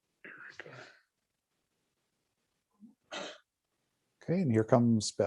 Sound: coughing noises

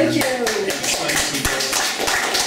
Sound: applause

